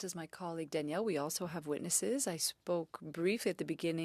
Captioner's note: speaking French